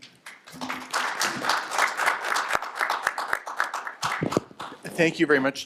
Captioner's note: applause